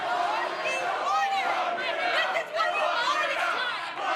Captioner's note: fans chanting